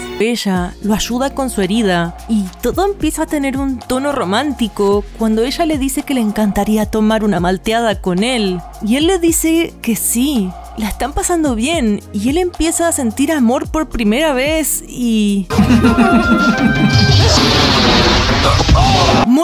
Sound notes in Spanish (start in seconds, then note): 15.5 Risas